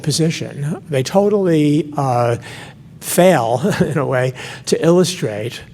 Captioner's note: laughs